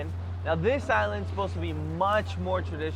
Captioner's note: speaks foreign language